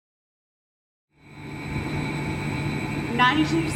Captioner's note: industrial humming in the background